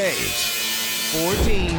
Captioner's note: grinder grinding